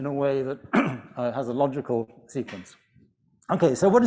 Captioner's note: clears throat